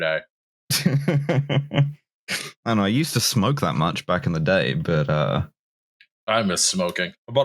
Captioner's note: chuckles